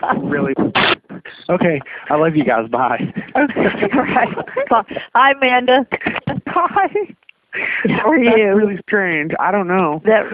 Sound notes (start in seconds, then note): 3.6 laughing